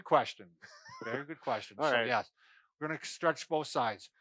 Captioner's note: chuckles